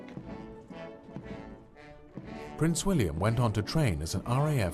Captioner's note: voiceover